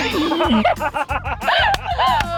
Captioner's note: laughter